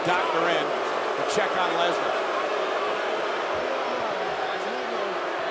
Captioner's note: crowd booing